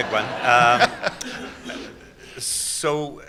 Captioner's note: laughter